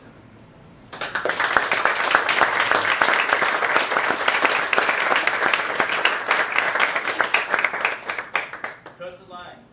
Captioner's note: applause